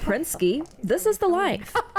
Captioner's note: laughs